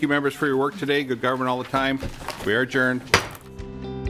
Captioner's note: gavel